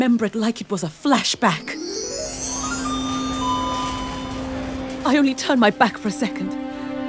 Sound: enchanting music; supermarket tannoy bleeping

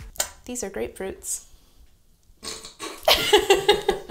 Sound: laughs nervously

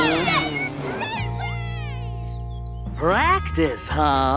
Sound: cheering

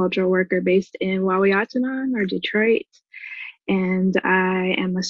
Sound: speaking foreign language

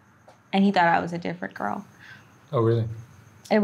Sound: sobbing

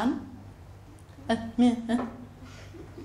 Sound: mutters

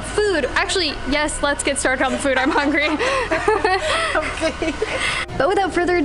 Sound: laughter

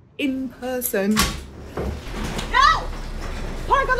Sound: garage door opening

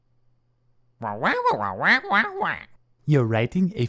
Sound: squawk

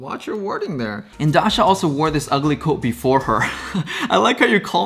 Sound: laughs

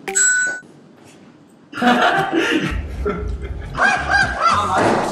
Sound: long version of the laugh

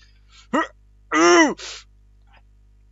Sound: attack noises

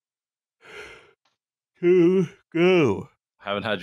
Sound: yawns

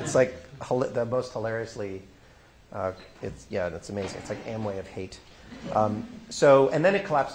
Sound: laughter

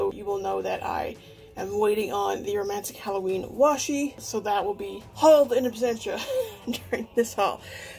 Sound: laughs

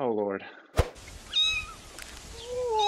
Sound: cat meows

